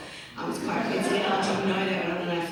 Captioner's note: audience laughs